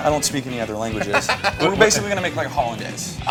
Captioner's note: laughs loudly